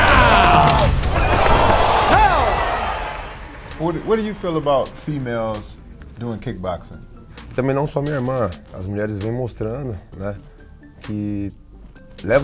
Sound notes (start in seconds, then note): 0.0 camera flashing; 0.0 audience cheering; 0.3 film reel rewinding; 7.3 speaking in Portug^uese